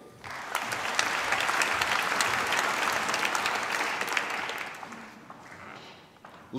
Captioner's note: applause